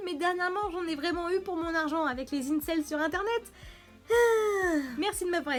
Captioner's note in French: gros soupir